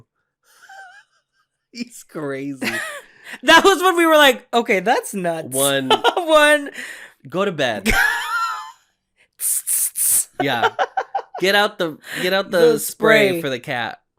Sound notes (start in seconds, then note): 0.6 laughs; 7.9 burst of laughter